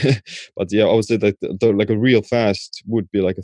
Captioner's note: chuckling